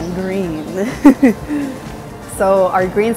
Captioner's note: laughing